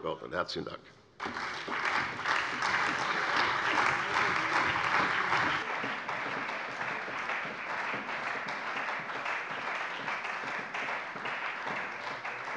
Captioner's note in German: Beifall bei der CDU und dem BÜNDNIS 90/DIE GRÜNEN